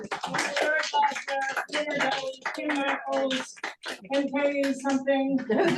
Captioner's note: speaker drowned out by clapping; crowd claps